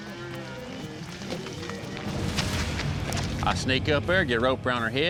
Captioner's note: cows moo